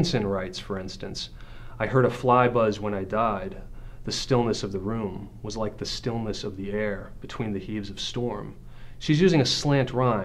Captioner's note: voice-over